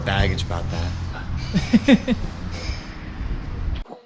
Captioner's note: laughs